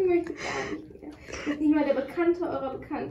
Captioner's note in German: Gelächter